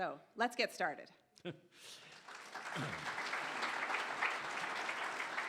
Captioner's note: audience applauds